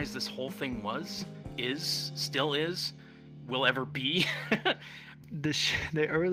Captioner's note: chuckles